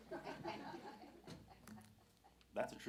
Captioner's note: audience laughing